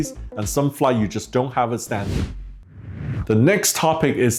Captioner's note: whooshing